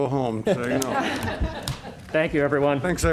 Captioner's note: laughter